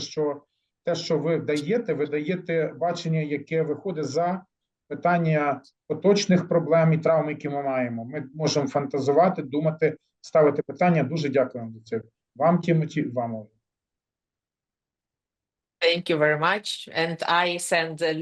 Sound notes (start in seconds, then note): 2.9 speaking ukrainian